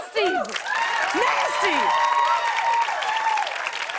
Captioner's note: cheers and applause